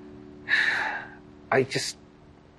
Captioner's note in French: sighs